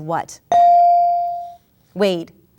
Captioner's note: ding